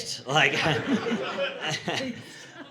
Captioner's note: audience laughing